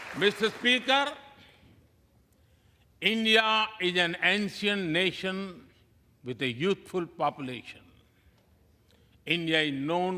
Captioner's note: applause